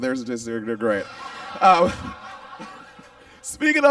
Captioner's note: audience laughs